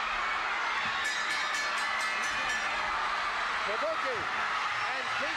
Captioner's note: crowd cheering; bell ringing